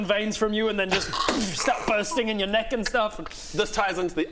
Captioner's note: pop!